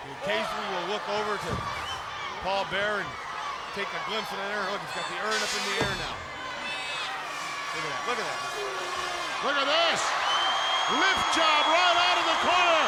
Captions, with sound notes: he occasionally will look over to Paul Bearer and take a glimpse of that urn. And look, he's got the urn up in the air now. (crowd yelling) Look at that. Look at that. Look at this. Lift job right outta the corner.